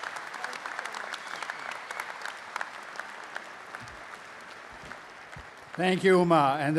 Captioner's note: audience applauding